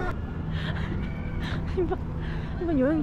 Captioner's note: non-stop laughter